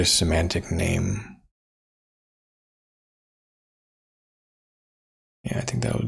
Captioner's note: blank Audio